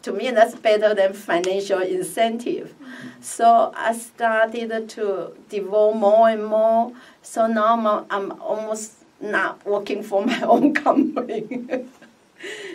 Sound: laughs

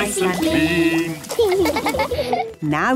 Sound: laughing

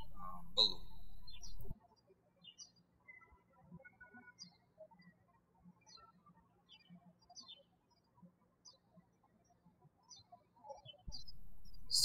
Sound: birds chirping

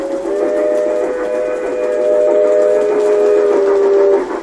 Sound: sound of steam train horn blowing

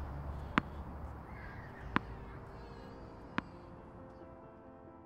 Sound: ball bounces

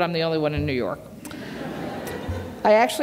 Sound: laughter

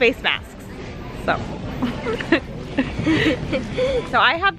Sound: laughs

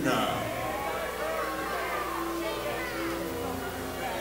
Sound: audience booing

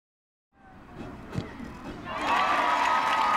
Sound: kicking ball; crowd cheering

